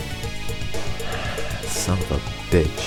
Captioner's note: sigh